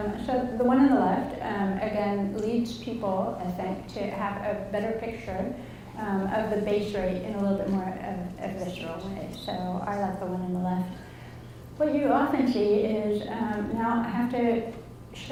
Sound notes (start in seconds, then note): none